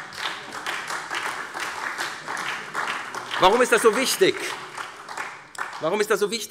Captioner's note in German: Beifall SPD